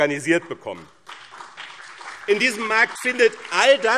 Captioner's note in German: Beifall BÜNDNIS 90/DIE GRÜNEN und CDU